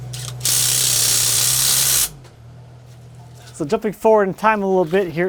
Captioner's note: drill buzzing